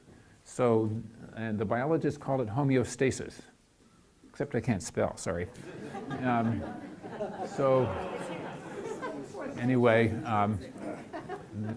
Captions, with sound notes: So the biologists call it homeostasis, except I can't spell, sorry. (laughing) So anyway, what I'm thinking about is here I am.